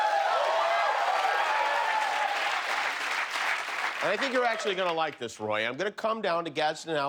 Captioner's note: cheers and applause